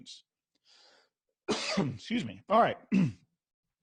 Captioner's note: coughs